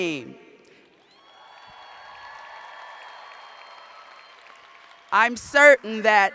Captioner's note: cheers and applause